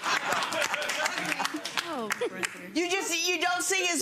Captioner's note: audience laughing